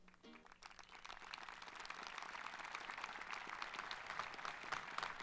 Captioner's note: audience applauding